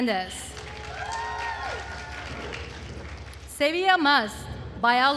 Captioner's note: attendees cheering and applauding